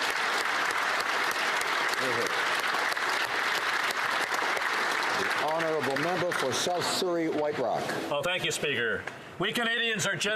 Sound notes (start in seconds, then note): 0.0 applause